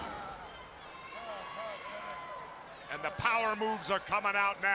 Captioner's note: crowd chatter